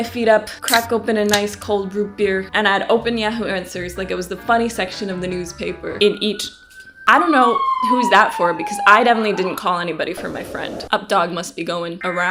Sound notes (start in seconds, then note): 4.9 loud siren